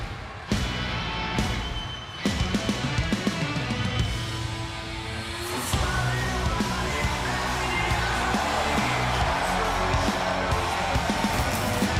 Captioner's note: crowd cheering